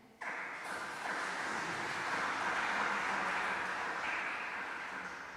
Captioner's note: applause